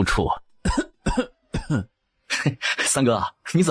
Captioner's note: coughs